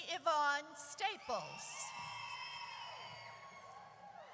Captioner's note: audience cheers